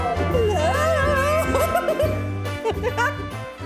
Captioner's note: laughing